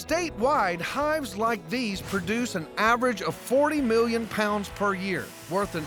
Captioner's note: none